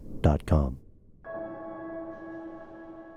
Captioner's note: bell rings